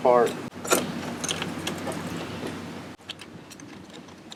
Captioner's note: ratchet clunks